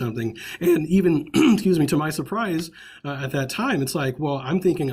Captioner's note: coughs